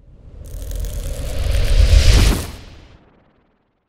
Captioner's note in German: Logo whooshing